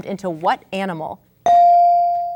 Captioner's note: ding